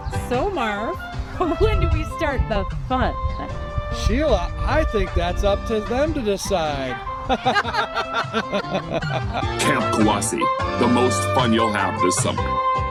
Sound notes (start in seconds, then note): 7.2 both laughing